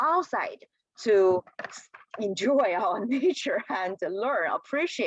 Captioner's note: laughter